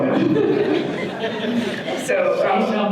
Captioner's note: audience laughter